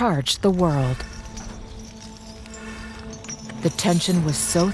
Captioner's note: chains rattling